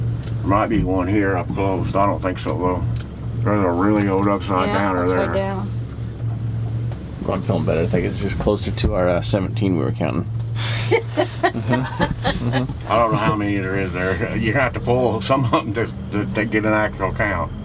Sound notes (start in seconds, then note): 10.6 laughing